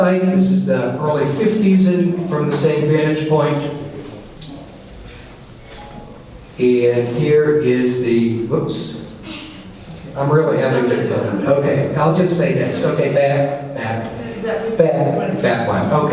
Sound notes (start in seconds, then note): none